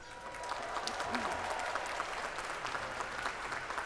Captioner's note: applause